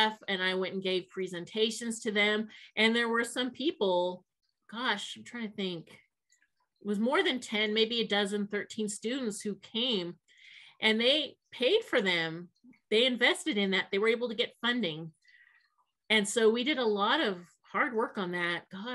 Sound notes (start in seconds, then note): none